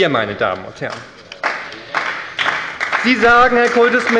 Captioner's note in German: Beifall bei der SPD